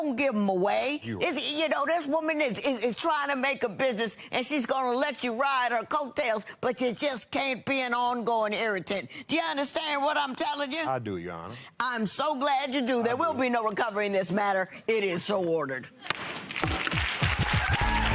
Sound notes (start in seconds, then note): 16.3 audience applauding; 16.5 gavel pound; 16.6 upbeat music